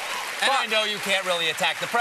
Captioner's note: cheers and applause